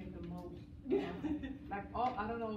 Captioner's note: laughs